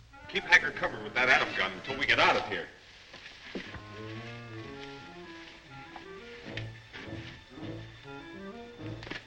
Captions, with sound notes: Keep Hakur covered with that atom gun until we get out of here. (hay rustles)